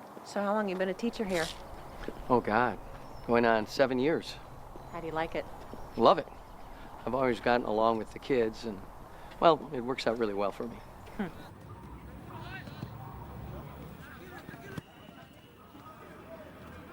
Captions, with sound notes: - So how long have you been a teacher here? - Oh God, going on seven years. - How do you like it? - Love it. I've always gotten along with the kids and, well, it works out really well for me. - Hm. (players chattering)